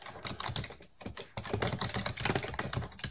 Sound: typing

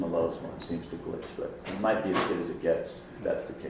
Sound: sharp clicking

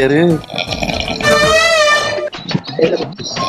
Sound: deep snores

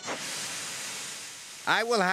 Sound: wheesh!

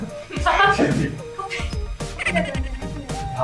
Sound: biting her lips, trying not to laugh

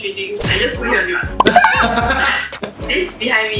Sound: laughs

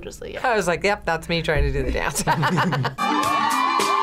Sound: laughs; upbeat music

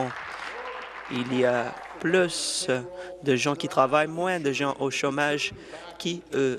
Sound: applause

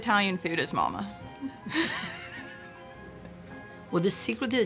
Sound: laughter

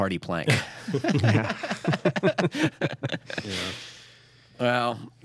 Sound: laughter

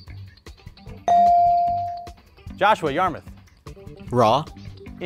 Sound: buzzer pings

